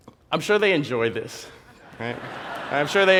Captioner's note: laugh